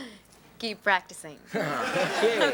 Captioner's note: audience laughs